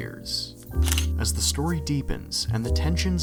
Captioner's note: camera shutter